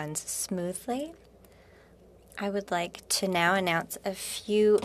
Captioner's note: speaking French